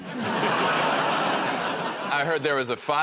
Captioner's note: laughter